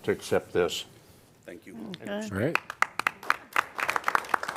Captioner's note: applause